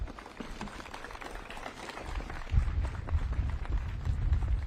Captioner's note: audience claps